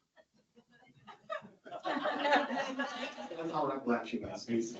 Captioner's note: audience laughing